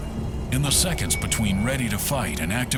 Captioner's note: voiceover